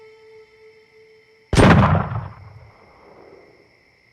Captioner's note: gun shot